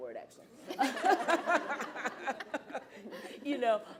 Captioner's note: laughter erupts